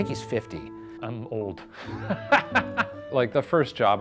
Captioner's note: laughs